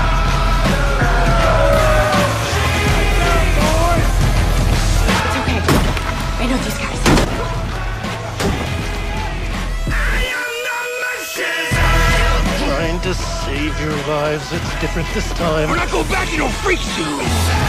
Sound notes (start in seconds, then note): 0.8 howls; 5.6 smashing; 8.4 smashing